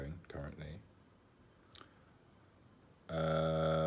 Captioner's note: clicks tongue